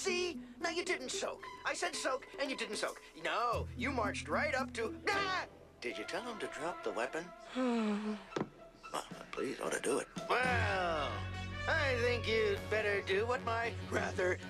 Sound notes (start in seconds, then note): 9.2 sighs